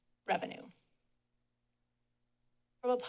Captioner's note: pause